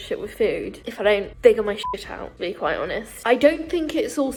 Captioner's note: beeps